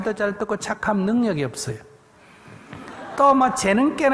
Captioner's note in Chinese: 听众 笑